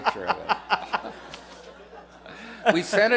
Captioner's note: laughter